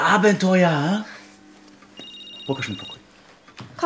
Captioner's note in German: Handyklingeln